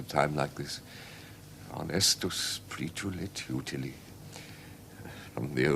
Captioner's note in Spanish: Habla latín